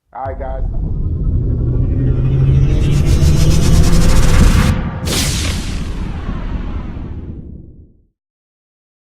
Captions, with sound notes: All right, guys. (electronic whirring) (whooshes)